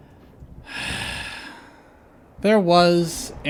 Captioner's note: sigh